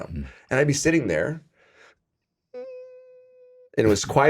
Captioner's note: imitates whining